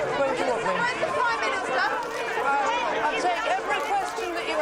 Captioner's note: reporters clamoring